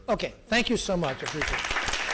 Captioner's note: applause